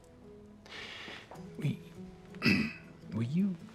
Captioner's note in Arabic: ينظف الحلق